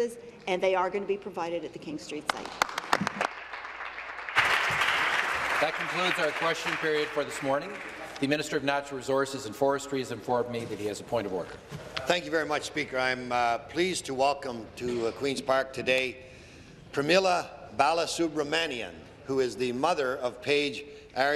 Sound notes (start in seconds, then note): 6.5 applause